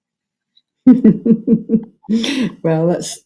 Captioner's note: chuckles